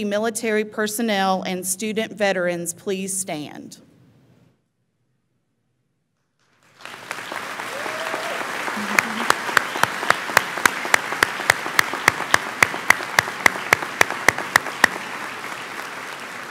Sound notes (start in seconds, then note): 6.5 audience applauds; 6.8 audience cheers